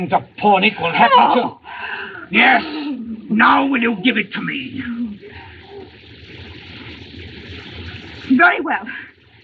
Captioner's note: moans